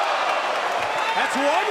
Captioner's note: crowd cheering